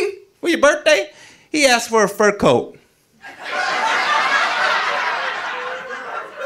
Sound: audience laughing

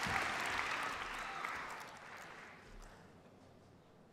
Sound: applause

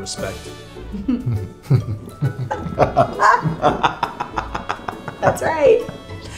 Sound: maniacal Laughter

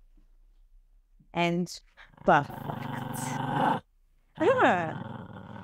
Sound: dog growls

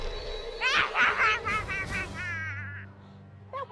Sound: manically Laughing

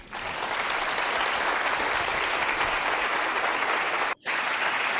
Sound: audience clapping

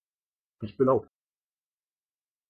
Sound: fast Pronunciation

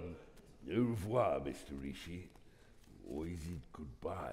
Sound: speaking in foreign language

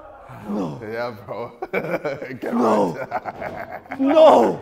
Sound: laughs sinisterly

